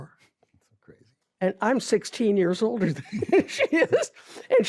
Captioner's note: laughs